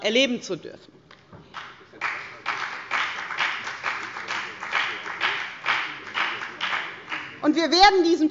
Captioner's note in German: Beifall bei der FDP